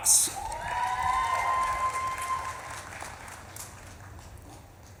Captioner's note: audience claps and cheers